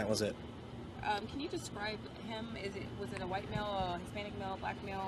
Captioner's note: indistinct chatter